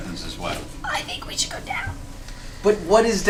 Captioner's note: quietly